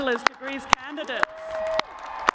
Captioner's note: cheers and applause